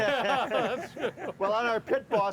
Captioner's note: laughing; chuckling